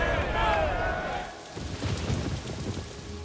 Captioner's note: soldiers cheering; thunder rumbles